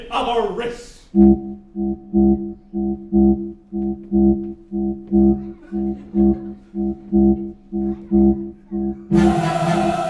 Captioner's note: dalek ship noise